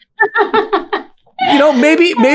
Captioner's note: laughing